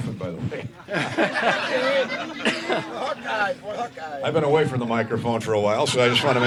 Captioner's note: laughter